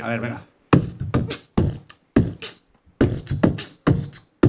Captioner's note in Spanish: hace beatbox